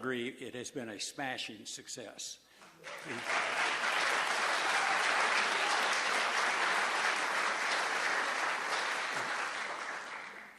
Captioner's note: applause